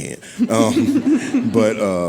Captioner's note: audience laughing